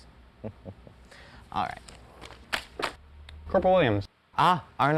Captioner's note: chuckles